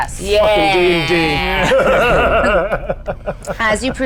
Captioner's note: group laughs